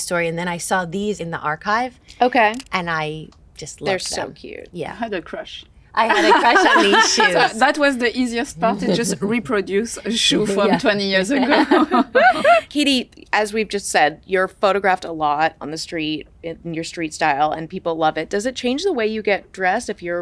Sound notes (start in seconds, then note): 6.1 chuckle; 11.3 all chuckle